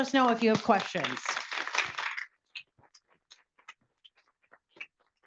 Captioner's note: audience applauds